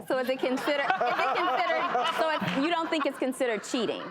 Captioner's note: laughter